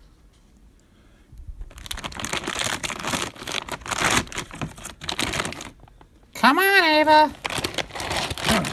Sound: bag rustling

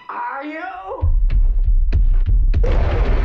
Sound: stomping

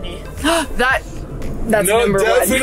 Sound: gasps

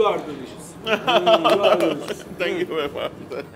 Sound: laughs

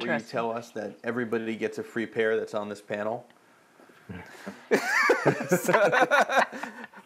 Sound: laughs

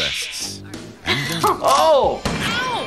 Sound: giggles

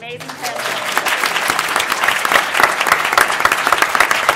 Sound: applause

